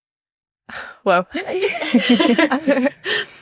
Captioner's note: both laughing